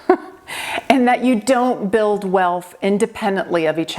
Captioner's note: laughing